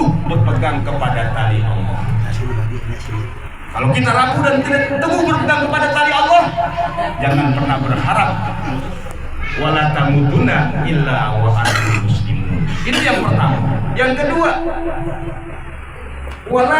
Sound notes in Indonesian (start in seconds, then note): 0.0 tertawa; 7.2 tertawa